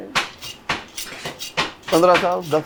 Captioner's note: speaks in foreign language; knives scraping; speaks in foreign language